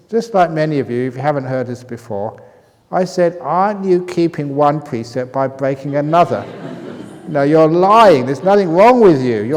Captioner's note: laughter